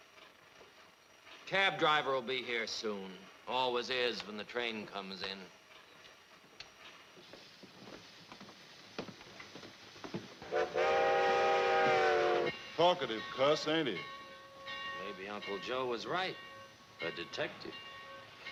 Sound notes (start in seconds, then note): 6.6 shoes clacking; 10.4 train hooting